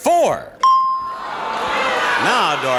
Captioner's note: bell ringing; audience cheering